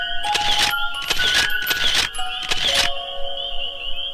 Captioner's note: shutter clicking